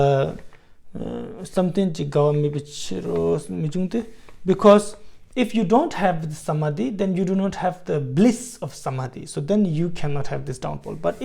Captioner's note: tibetan